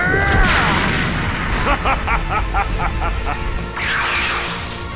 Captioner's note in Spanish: Gritos; Ríe amenazadoramente